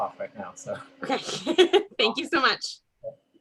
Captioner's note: giggles